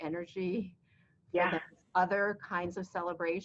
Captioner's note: laughs